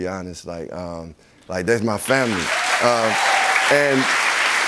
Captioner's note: cheers and applause